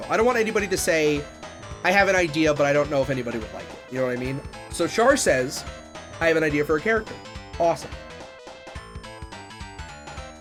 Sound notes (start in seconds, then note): none